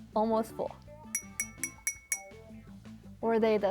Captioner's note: jar tinking